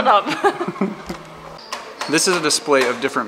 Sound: laughs

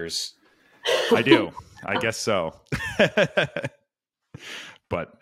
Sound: laughs

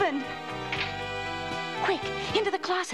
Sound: latch clicks

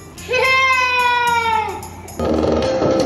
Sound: shouting

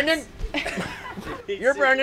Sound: laughing

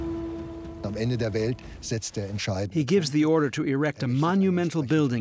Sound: speaking German

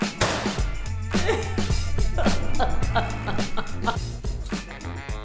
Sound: sobbing

